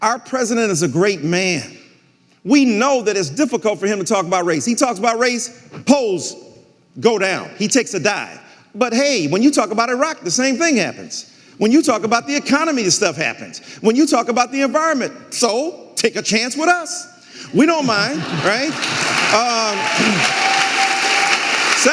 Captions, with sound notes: Our president is a great man. We know that it's difficult for him to talk about race. He talks about race, polls go down, he takes a dive, but hey, when you talk about Iraq, the same thing happens. When you talk about the economy, this stuff happens. When you talk about the environment, so take a chance with us. (audience laughing) We don't mind, right?